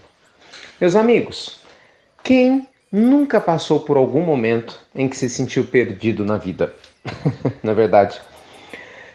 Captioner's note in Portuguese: Risos